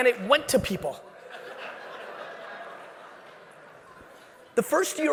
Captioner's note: audience laughing